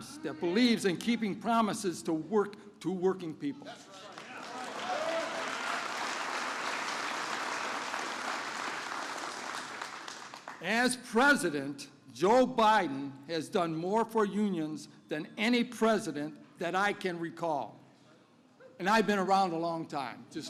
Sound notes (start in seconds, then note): 3.9 applause